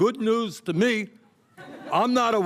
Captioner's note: laughter